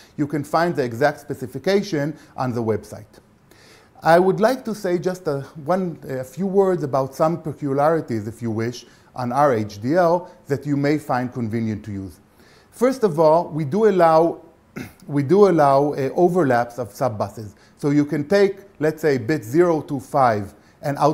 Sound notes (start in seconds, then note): 14.7 cough